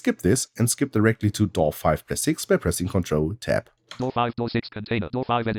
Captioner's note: automated voice